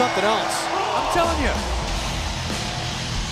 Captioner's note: bell ringing